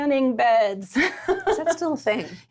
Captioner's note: laughs